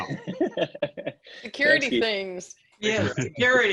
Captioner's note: laughs